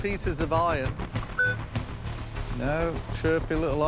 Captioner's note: electronic beep